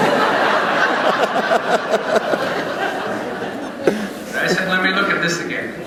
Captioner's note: laughter